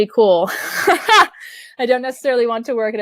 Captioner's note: laughing